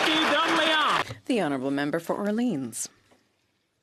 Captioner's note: some Applause